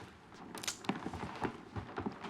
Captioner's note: gun cocking